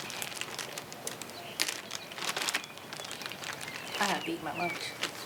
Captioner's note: paper crackling; birds chirping